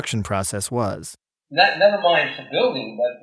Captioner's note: soundbite of archived recording